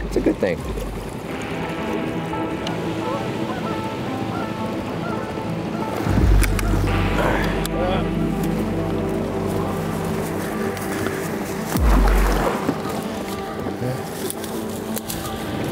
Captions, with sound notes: It's a good thing. (water splashing) (upbeat music)